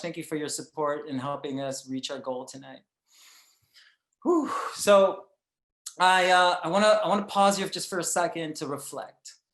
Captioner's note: none